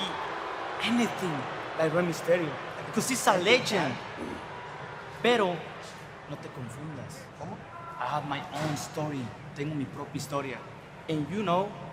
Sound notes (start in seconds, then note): 5.5 spanish language